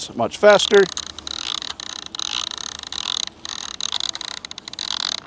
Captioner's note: machine clunking